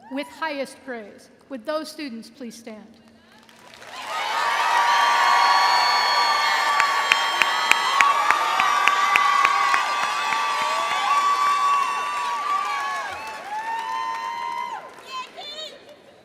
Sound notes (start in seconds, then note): 3.5 audience applauding and cheering